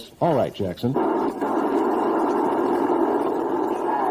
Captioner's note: radio static